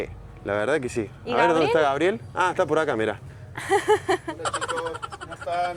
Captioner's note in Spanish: risas